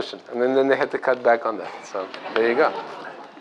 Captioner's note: laughter